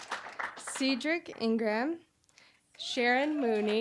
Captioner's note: applause